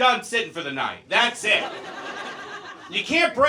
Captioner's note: audience laughs